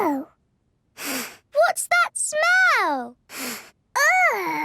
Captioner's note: sniffs; sniffs